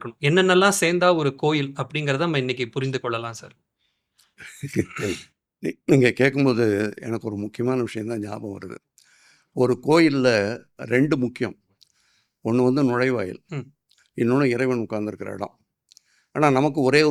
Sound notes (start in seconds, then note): 4.4 laughs